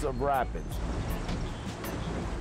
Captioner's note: rapids roaring